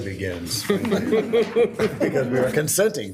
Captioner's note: group laughing